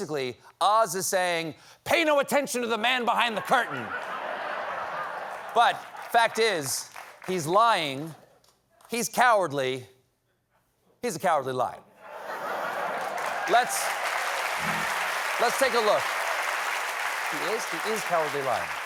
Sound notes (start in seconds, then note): 12.4 cheers and applause